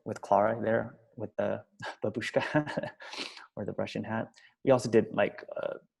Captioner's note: laughs